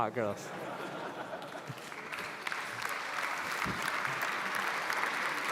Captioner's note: laughter and applause